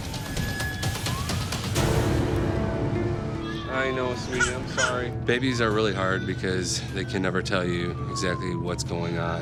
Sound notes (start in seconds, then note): 0.0 siren blaring; 4.2 crying